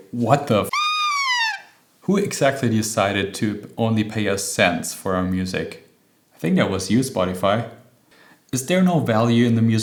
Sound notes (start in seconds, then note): 0.7 honk